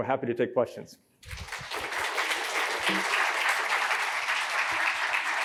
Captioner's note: applause